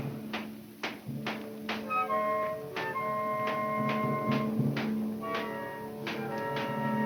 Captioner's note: pensive orchestra music; distant banging